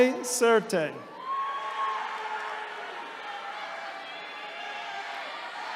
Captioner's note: attendees cheering